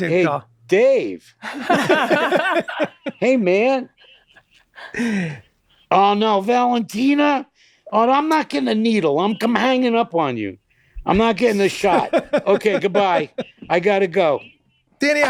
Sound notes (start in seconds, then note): 1.4 all laughing loudly